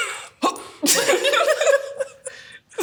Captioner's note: both laugh